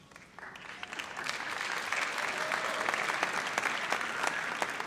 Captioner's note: audience applauds